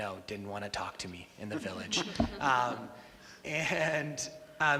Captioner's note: all laugh